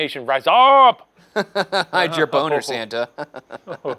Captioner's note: chuckles